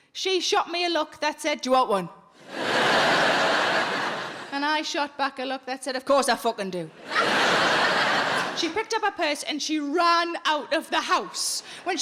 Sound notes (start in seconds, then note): 2.4 audience laughing; 7.0 audience laughing